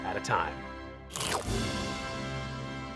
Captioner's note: slurps